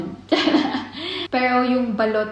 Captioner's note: giggling